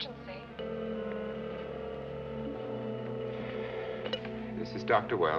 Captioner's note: telephone ringing